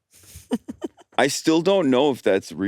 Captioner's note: laughs